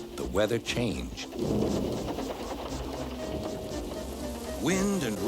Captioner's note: thunder rumbles